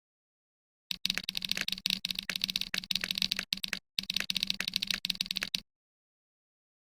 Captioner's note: typing